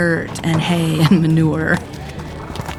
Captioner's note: laughing